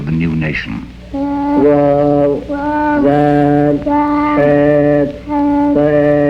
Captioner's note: vocalizing in foreign language